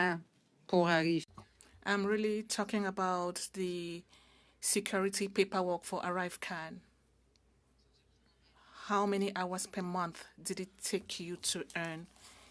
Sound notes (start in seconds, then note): 8.9 speaking French